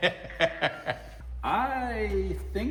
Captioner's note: laughing